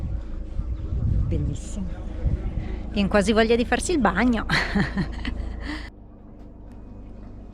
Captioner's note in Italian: risate